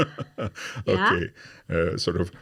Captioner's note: chuckles